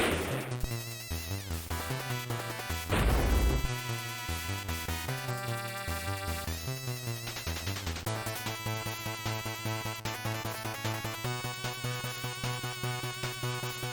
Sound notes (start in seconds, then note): 2.9 thud